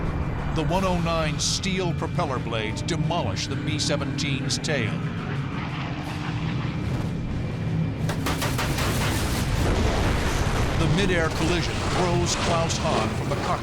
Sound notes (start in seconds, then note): 8.0 gunfire